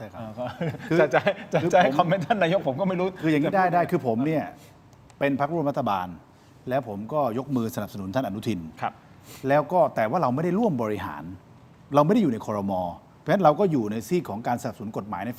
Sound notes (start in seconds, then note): 0.4 laughs; 9.1 takes a breath